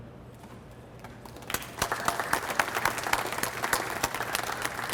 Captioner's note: audience applauds